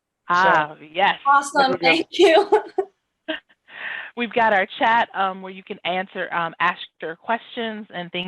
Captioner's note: laughing